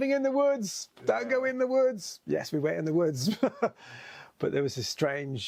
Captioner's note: laughs